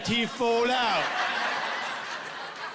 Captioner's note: with british accent; laughing